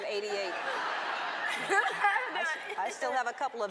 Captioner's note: audience laughs